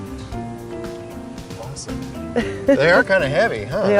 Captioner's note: laughs